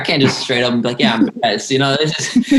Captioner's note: laughter